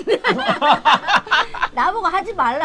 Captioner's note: both laughing